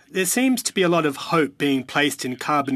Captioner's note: speaking French